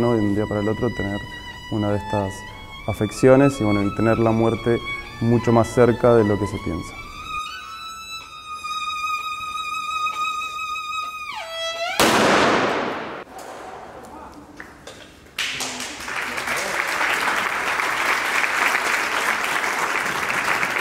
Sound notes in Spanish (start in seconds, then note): 12.0 Disparo; 15.3 Aplausos